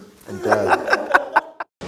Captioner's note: laughs; group laughing